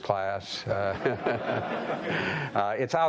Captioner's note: audience laughing